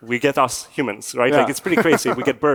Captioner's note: chuckles